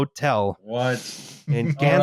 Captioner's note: chuckles